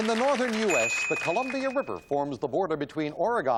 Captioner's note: ding